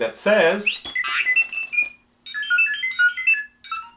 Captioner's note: bag beeps